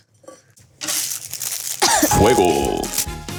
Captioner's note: plastic crinkling; coughing